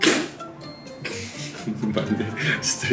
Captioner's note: bursts out in laughter